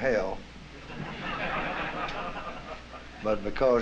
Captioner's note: laughter